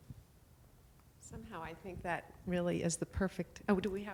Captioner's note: voiceover